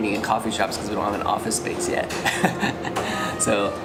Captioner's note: laughs